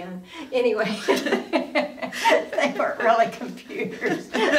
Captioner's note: both women laughing